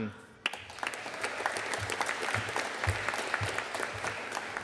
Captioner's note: audience applauding